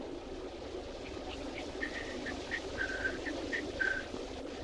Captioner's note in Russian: насвистывает